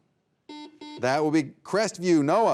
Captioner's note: buzzer beeping